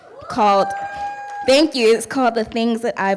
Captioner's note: audience cheering